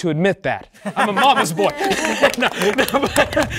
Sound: chuckling; participants applauding

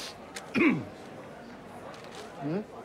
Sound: coughing

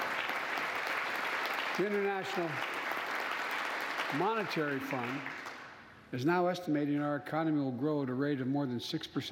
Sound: applause

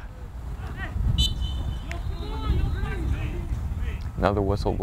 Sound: whistle blows

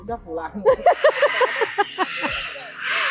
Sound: chuckled

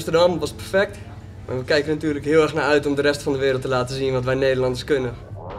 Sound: in foreign language

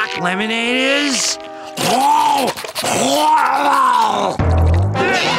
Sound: gagging; customers moaning

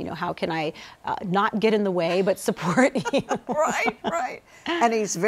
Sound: laughs

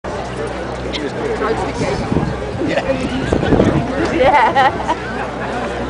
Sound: background chatter and laughter

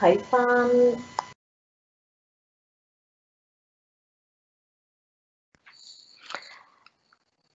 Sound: microphone cuts off

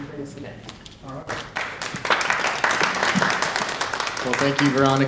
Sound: audience applauding

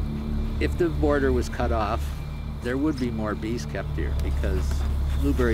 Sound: Stan narrating

